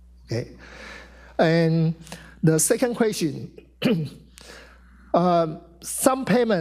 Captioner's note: clears throat